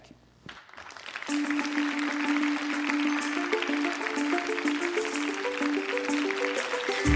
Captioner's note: applause